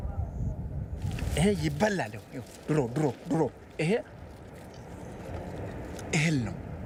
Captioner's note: speaking foreign language